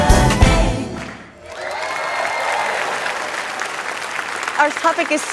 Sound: cheering

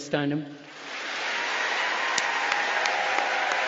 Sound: applause

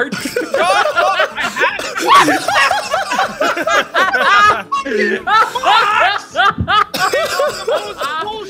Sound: all laughing

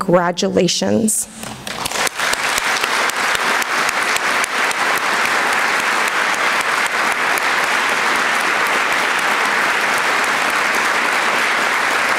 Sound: applause

